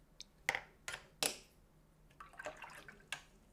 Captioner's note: silence